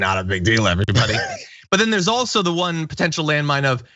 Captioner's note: laugh